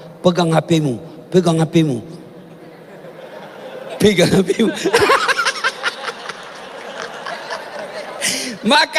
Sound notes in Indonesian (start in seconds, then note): 4.5 tertawa